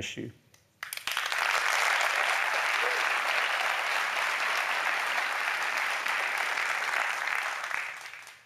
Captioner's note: applause